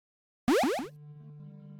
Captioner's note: bloop